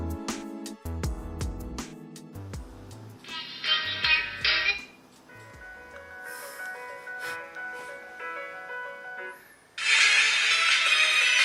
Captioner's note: sound from the phone